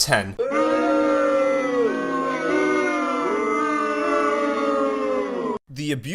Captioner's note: booing